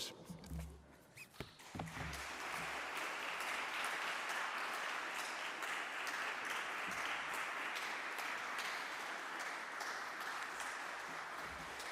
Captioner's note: applause